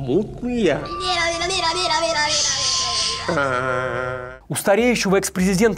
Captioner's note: screaming